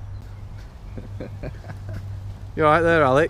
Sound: laughing

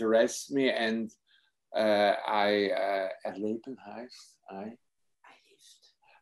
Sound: speaks in foreign language

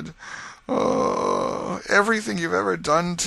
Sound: groan

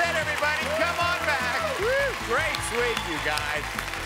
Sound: applause

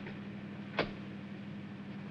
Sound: glove box closes

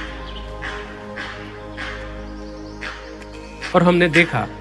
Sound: Langur giving alarm calls

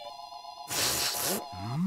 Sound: sniffing

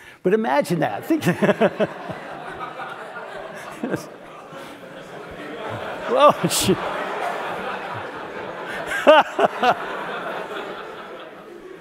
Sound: laugh; laugh

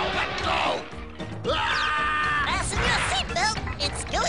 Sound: yells

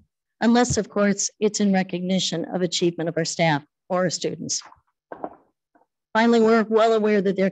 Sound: none

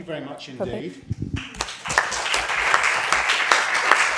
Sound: applause

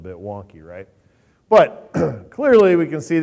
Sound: clears throat

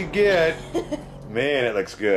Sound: laughs

